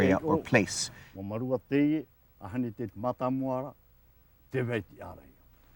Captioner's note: speaking Tahitian language